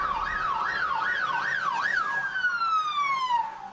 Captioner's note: sirens wailing